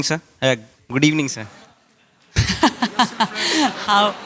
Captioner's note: laughter